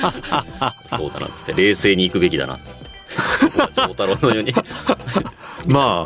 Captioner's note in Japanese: 笑い